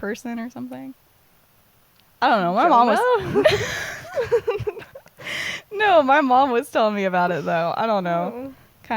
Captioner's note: laughter